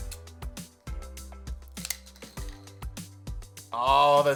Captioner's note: straws popping